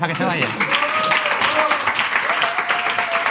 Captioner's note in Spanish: Aplausos